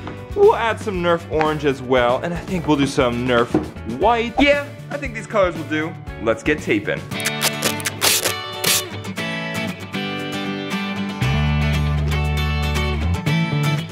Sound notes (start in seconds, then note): 7.1 tape unsticking; 7.1 light electric guitar music